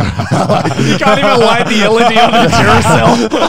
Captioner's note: laughing